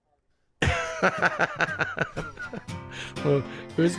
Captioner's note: laughs